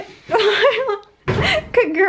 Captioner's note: laughing